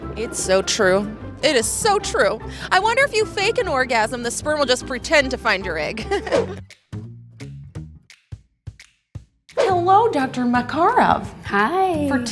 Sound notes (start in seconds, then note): 6.0 laughs; 7.1 mellow jazzy music